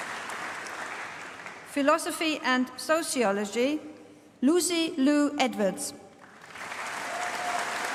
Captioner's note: applause